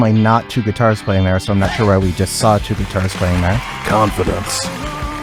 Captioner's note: saw